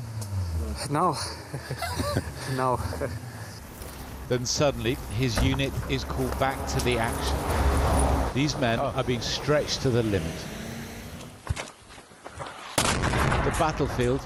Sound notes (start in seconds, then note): 4.7 voice-over